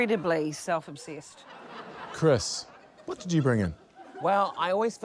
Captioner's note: laughter